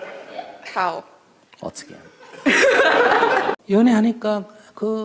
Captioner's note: audience Laughter